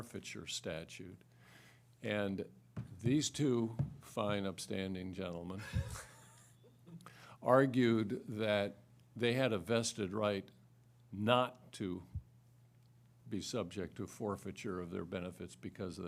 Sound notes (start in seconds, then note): 5.6 laughter